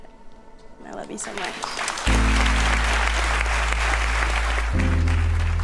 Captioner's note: audience clapping